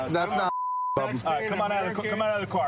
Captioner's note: chatter